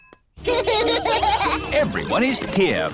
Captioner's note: children laughing